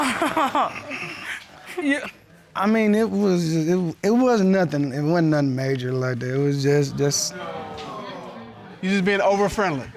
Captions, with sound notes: Oh. [laughs] I mean, it was-- It wasn't nothing-- it wasn't nothing major like that, it was just... [audience exclaims] You're just being over friendly?